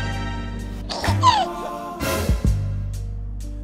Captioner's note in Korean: 헤헿